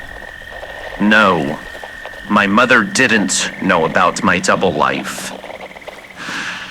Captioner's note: regular voice without accent; inhales